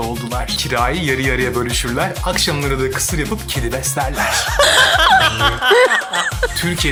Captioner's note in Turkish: kahkaha